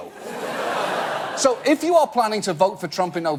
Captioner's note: audience laugh